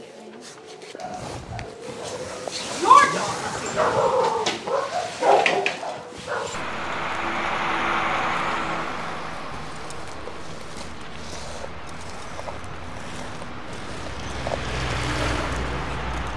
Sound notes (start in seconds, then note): 3.7 dog barking; 6.8 cars passing